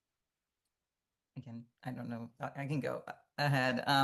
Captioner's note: hablando inglés